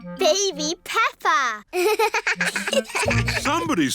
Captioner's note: both laugh